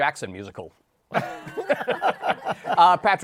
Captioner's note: laughter